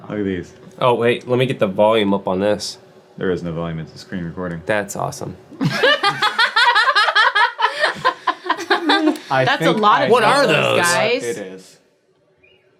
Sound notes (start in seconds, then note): 5.6 everyone laughing